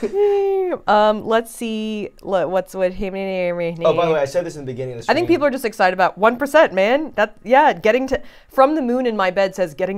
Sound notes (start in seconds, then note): 3.0 speaking gibberish